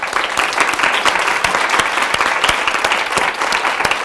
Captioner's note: applause